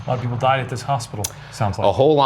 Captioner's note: none